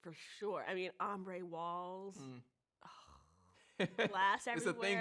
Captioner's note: slobbers